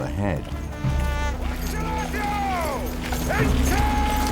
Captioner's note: soldier shouting